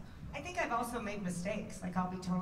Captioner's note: none